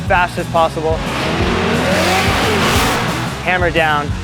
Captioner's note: car engines roar